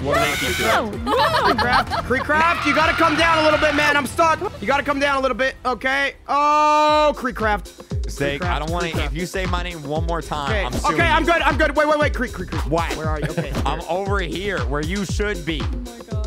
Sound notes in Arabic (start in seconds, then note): 0.0 تصرخ; 2.3 صرخات